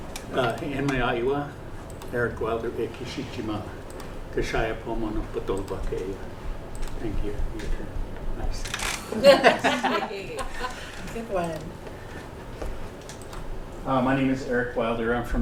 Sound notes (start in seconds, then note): 5.2 non-english speech; 9.0 laughter